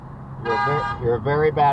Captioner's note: honks back